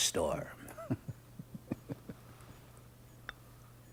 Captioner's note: chuckling